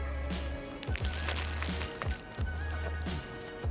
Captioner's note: crunch